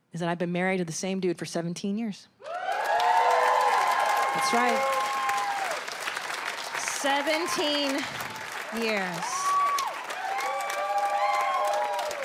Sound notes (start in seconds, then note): 3.0 audience applauds and cheers; 8.4 audience applauds and cheers